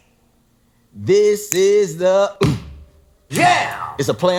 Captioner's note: stomp